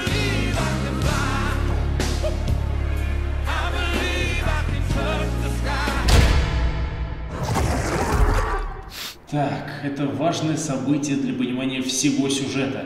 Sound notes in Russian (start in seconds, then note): 8.0 Крик лошади